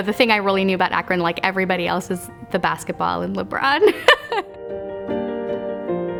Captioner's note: laughs